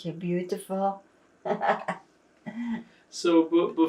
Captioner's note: laughing